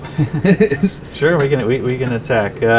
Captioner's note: laughing